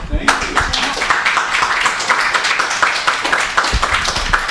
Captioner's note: applause